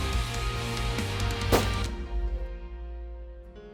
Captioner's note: gun shot